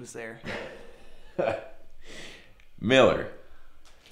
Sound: chuckling

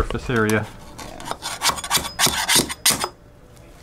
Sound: blade scraping

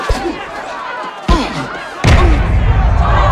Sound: grunting; crowd

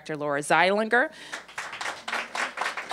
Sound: applause

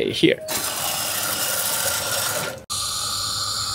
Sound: machine whirls

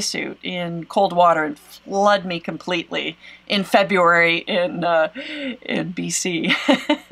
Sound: laughs

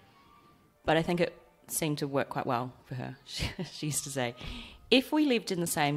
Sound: aussie accent

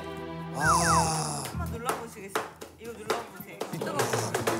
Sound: sighing

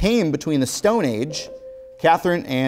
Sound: beeping

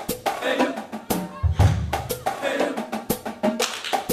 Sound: claps; clapping

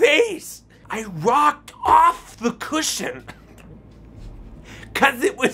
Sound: laughs

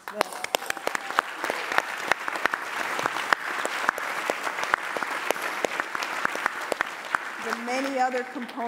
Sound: applause

